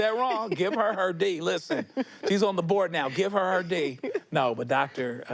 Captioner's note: laughs